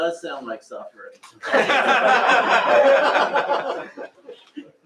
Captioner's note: laughter